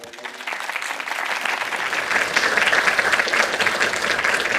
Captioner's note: applause